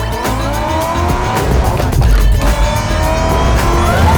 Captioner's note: car revving; upbeat music